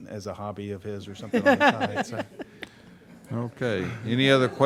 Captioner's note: group laughing